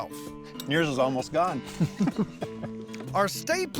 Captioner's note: chuckles